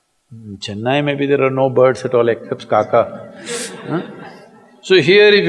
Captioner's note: laughter